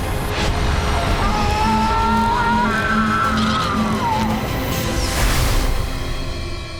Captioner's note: Jake screams; laser beams; dramatic music